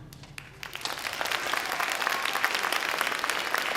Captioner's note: audience applauds